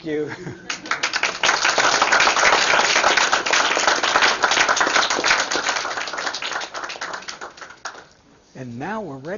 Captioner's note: applause